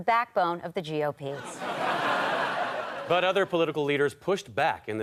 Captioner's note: audience laughter